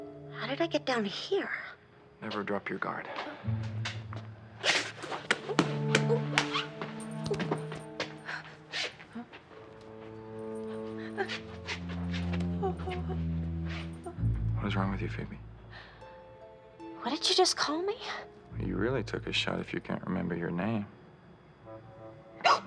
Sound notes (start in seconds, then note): 10.9 whimpering